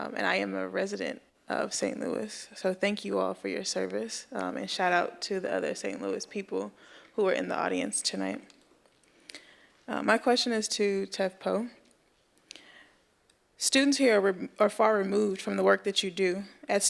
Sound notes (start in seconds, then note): none